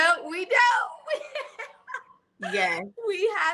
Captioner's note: chuckles